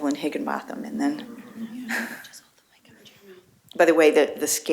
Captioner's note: laughter